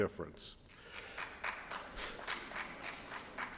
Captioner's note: applause